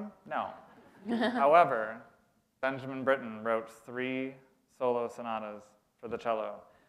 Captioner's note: chuckle